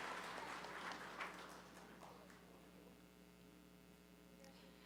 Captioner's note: applause